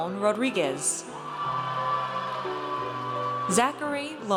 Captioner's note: audience cheers